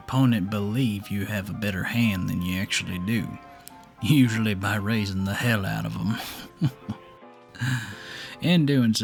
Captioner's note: chuckles